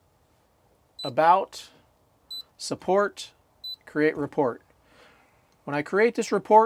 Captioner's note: beeping